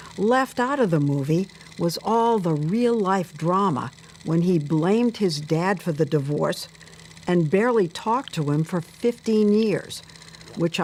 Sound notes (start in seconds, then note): none